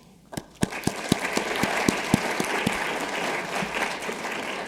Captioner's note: audience applauding